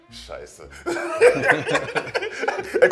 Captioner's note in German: Lachen